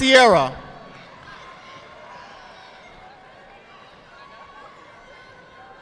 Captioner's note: audience applauding